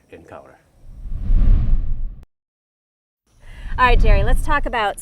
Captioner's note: air whooshing